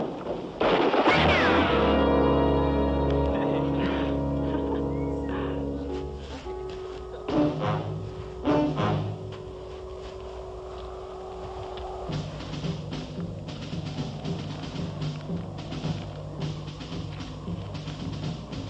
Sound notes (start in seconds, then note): 1.5 instrumental flourish; 3.0 woman laughs; 7.8 dramatic music; 14.7 drums beating